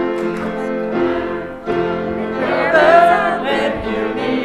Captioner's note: none